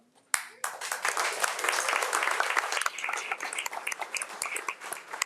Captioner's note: audience applauds